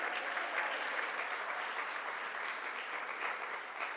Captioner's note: audience claps